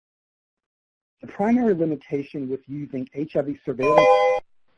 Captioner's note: computer tone